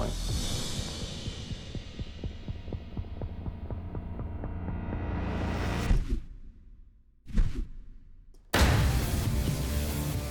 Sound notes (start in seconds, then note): 0.0 dramatic music playing; 5.7 slowed whirring; 8.5 echoing thud